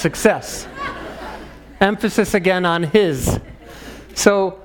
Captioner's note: laugh